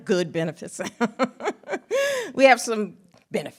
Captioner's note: laughs